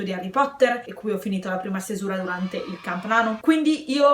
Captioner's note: kids cheering